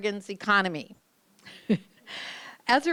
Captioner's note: chuckles